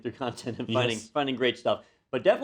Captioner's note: laugh